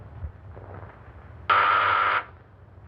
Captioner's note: buzzing